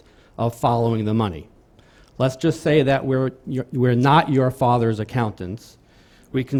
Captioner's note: stutters